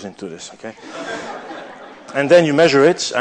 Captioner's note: laughter